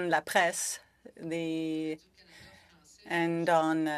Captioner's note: speaking french